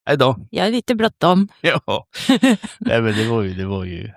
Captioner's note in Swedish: skratt